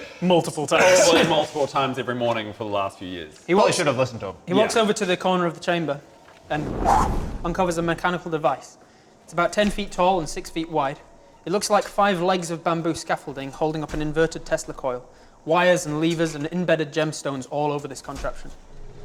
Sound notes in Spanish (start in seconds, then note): 6.5 whoosh